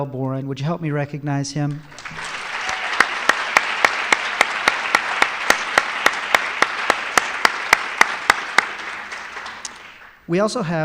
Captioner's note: applause